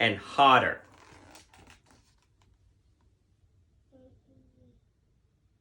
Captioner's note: book squeaking